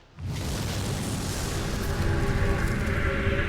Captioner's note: fire whooshing; ominous ethereal music